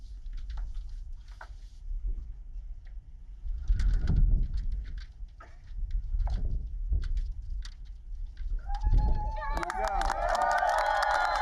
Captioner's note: applause